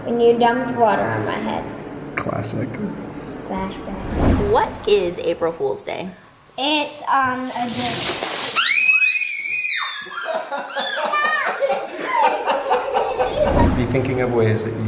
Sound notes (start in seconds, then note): 8.5 kids squealing; 10.0 laughing